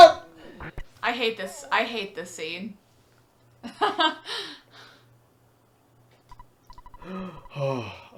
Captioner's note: laughs